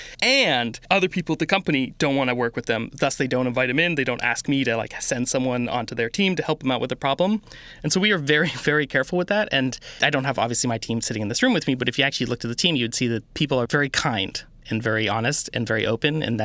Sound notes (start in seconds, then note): none